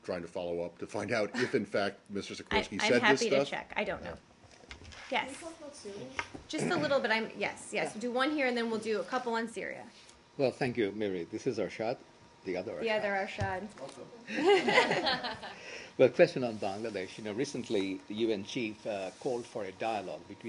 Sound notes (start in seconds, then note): 14.3 laughter